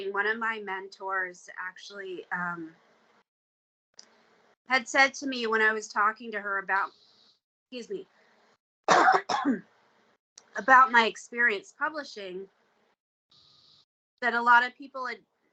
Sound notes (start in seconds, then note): 8.8 coughing